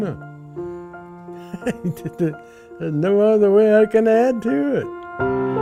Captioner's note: laughing